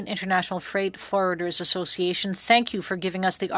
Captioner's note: speaking French